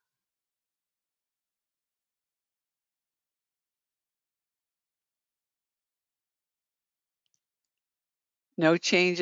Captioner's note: 8 seconds pause